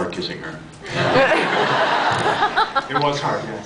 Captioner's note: laughs